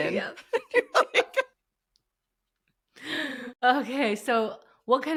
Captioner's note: both laughing